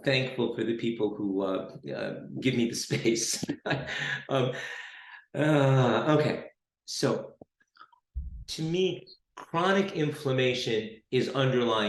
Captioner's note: chuckle